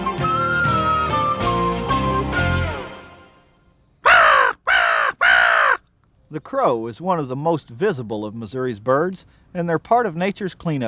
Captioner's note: crow call